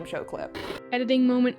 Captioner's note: TV noise